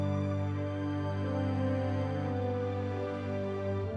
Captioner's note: none